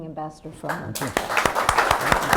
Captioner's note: applause